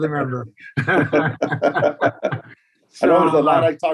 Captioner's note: both laugh